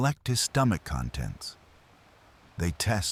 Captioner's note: wind Blowing